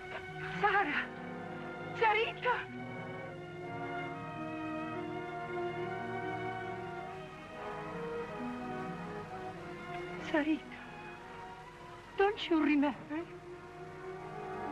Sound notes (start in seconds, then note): none